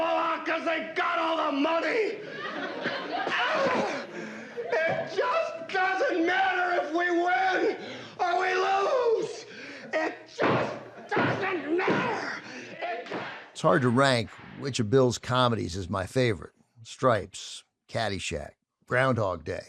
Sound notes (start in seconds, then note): 3.0 wails; 11.1 pounding